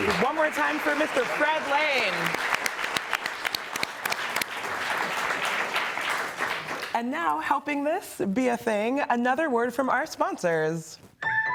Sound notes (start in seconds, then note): 2.6 audience applauding; 11.3 upbeat music